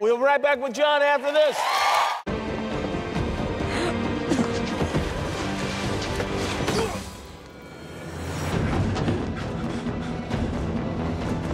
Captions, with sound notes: We'll be right back with John after this! [SUSPENSEFUL MUSIC] [GRUNTS]